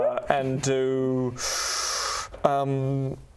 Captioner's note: tschhhhhhh